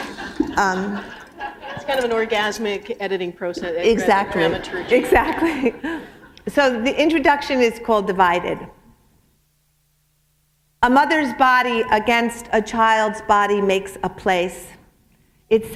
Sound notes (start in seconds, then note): 0.0 laughter; 5.4 chuckle